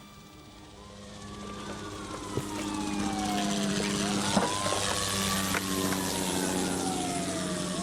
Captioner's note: helicopter whirring; sirens wailing